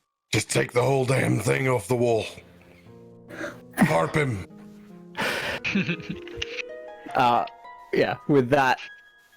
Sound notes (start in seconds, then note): 5.5 giggles